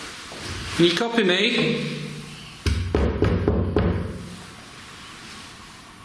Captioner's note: banging